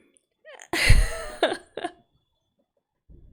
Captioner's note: laughs